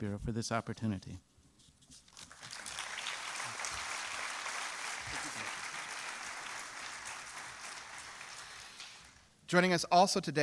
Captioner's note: applause